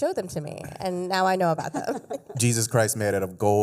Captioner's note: laughter